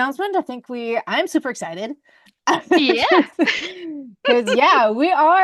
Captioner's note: laughs